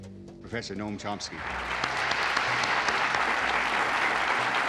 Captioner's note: audience applauding